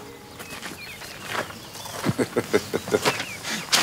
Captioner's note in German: Er lacht